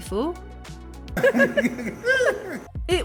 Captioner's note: laughter